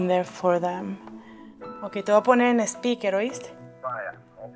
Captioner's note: talks to Dad on phone